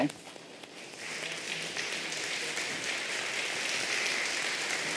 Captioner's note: applause